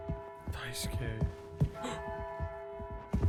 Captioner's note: footsteps approaching; Skull gasps